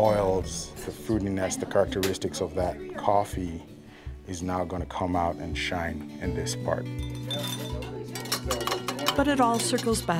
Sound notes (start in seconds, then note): 7.0 utensils cluttering; 7.4 people chattering